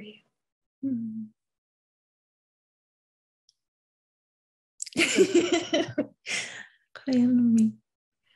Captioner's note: giggles